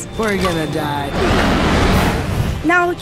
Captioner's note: dragon loudly roaring